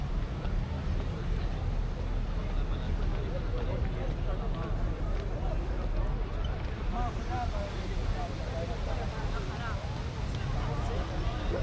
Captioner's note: people chattering